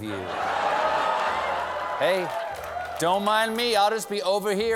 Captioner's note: laughter